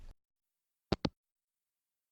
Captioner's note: hangup